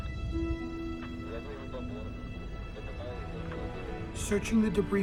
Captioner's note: man speaking in foreign language